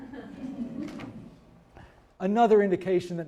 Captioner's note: audience chuckling